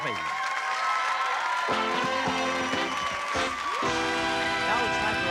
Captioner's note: cheering